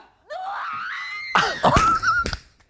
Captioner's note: Zara screams